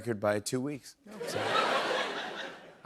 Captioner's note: laughter